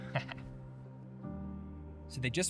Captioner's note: chuckles